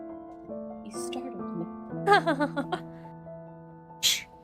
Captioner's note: ROSE laughs